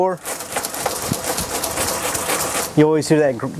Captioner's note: rattling